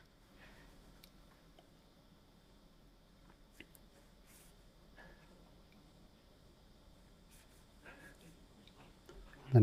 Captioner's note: silence